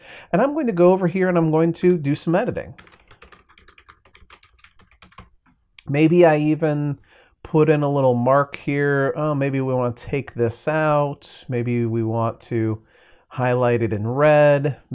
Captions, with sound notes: And I'm going to go over here and I'm going to do some editing. (typing sounds) Maybe I even put in a little mark here. Oh maybe we wanna take this out. Maybe we want to highlight it in red.